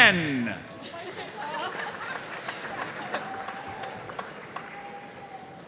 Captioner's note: audience cheering and applauding